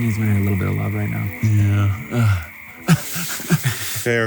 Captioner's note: laughs